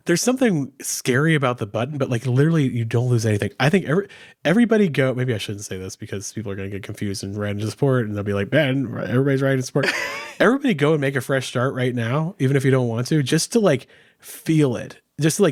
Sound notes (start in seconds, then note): 9.8 laughing